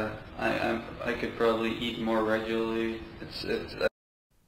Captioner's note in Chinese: 录音